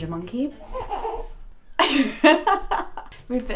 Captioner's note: coos; laughs